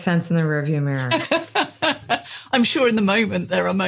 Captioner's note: laughs